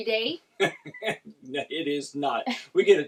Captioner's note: laughs